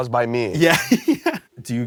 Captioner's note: laughs